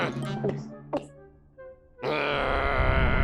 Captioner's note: growling; gulps; growls